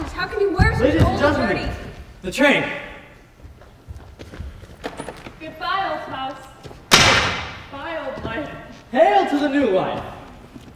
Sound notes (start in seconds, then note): 4.6 door opens; 6.9 loud thud on the floor